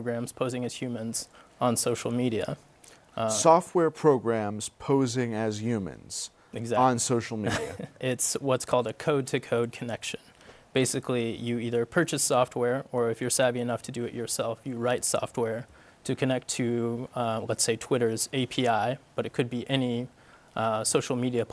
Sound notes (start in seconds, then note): 7.4 laughs